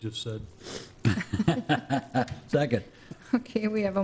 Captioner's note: some board members laugh